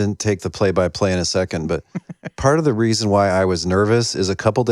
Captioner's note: laughter